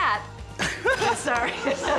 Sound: laughing

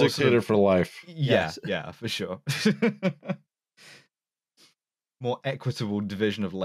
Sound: chuckles

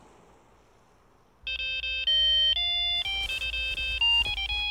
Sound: phone chimes

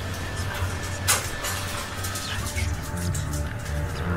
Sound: whispers

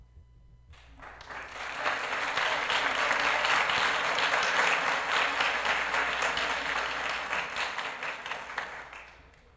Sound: applause

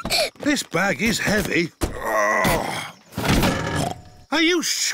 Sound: peppa giggles; grunts; snorts

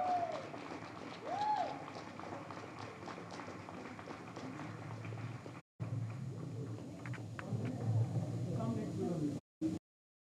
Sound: audience cheers

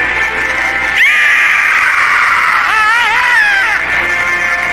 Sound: both screaming

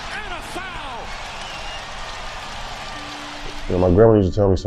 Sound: crowd cheers

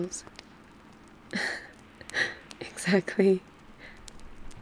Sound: laughs

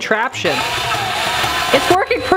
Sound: drill whirls

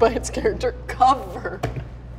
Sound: laughs

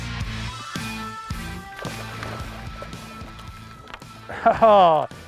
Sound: water splashing; laughs

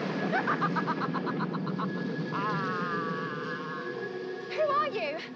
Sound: laughs maniacally

